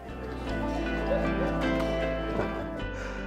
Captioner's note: laughs